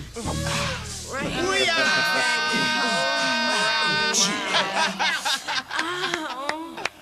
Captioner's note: laughter